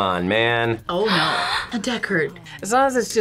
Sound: gasps

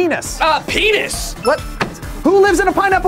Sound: bell rings

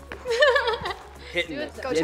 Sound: laughing

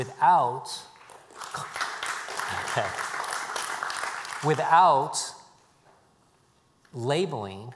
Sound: applause

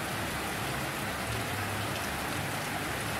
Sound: rain Sounds

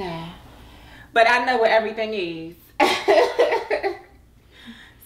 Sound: laughs

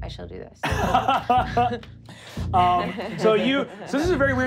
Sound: laughing

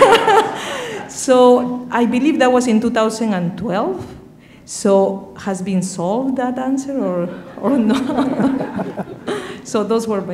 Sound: laughter

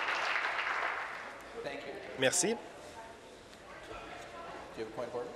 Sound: sustained applause

